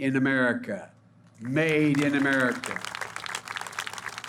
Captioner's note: applause